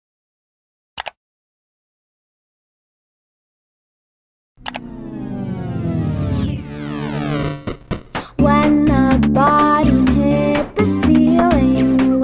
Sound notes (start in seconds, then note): 1.0 click; 4.6 click